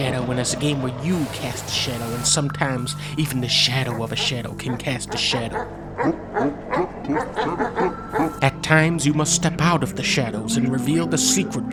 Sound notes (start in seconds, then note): 6.6 dog barking